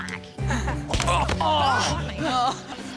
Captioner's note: grunts then groans